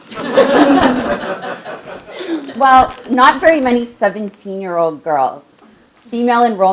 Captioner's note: laugh